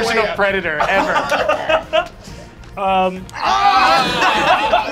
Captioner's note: laughing and yelling